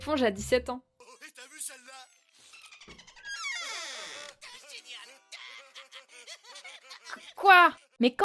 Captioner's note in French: son de la télé